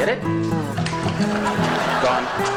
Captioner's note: audience laughs